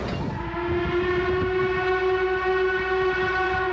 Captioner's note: train hoots